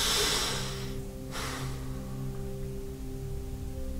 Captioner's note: sighs deeply